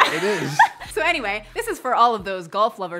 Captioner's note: laughs loudly